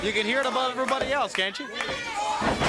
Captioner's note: crowd chatter